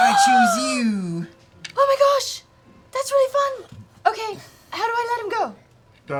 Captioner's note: gasps